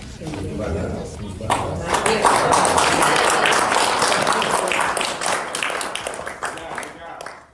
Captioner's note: applause